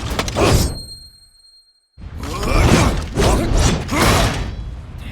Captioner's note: knife slices the air